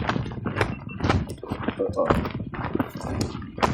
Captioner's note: gopro camera beep